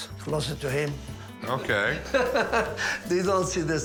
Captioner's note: laughs